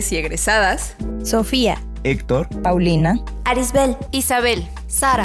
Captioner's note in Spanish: Varias voces